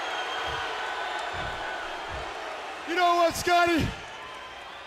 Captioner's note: crowd chatter